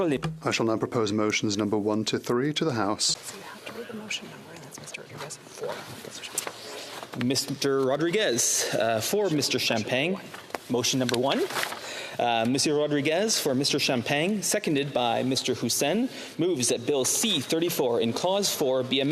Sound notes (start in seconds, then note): 5.1 speaking French